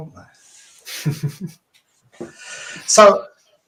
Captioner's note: chuckling